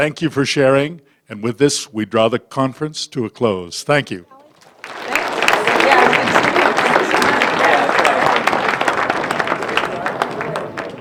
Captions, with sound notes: thank you for sharing, and with this we draw the conference to a close. Thank you. [applause]